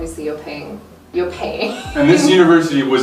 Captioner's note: laughs